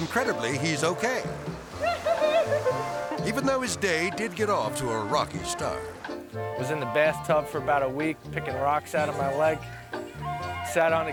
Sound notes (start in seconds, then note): 1.8 giggling